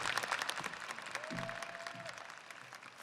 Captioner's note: audience applauding